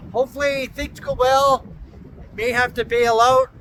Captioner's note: wind howling